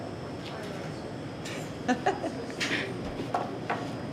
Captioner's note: laughs